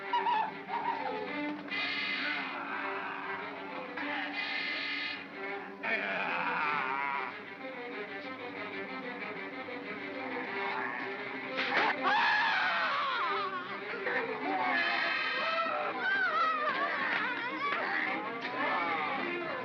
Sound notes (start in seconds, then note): 0.1 Stan & Ollie whimper; 0.1 suspenseful music; 2.6 Bogeyman growls; 2.6 suspenseful music; 11.5 darts thunking; 11.6 Bogeymen screaming